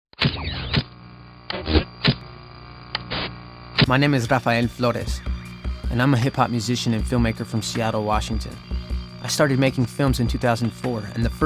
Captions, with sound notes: (static hisses) (laid-back hip hop music) - My name is Rafael Flores and I'm a hip hop musician and filmmaker from Seattle, Washington. I started making films in 2004,